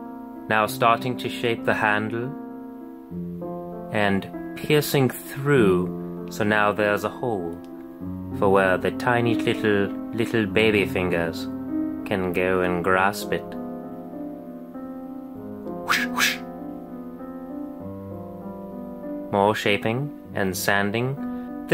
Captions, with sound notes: Now starting to shape the handle, and, piercing through- -so now there's a hole. For where the tiny little, little baby fingers, can go and grasp it. *epic sword sfx* More shaping, and sanding.